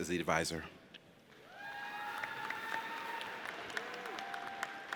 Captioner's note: audience cheers